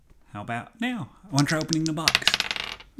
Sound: sounds of dice being shaken and thrown

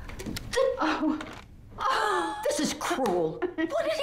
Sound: gasping in delight

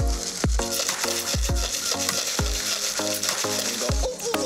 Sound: upbeat music; rocks rattling

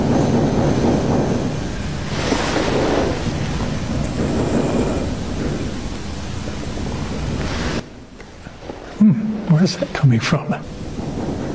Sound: thunder

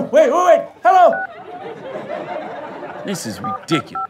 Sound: phone beeps; dialing beeps

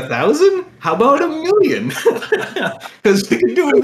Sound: laughter

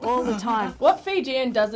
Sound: giggles

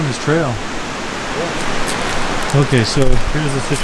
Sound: water rushing

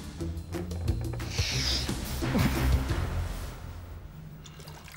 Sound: floor creaking

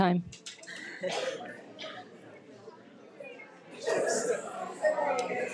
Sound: people chattering

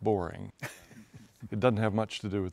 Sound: laughs

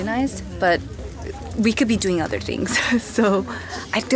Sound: chuckles

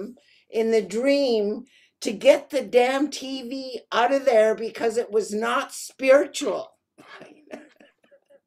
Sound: laughing

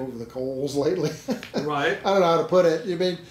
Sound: laughing

